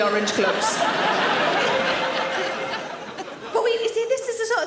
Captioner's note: audience laughing